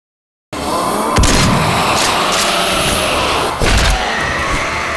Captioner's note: gunshot booms